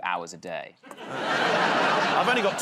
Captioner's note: laughter